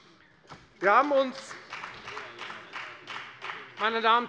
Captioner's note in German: Beifall bei der FDP